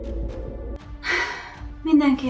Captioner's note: sighs